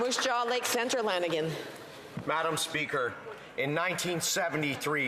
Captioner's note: some Applause